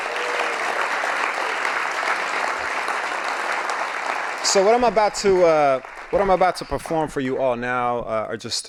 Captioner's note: applause